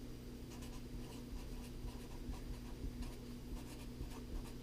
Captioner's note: pen writing on paper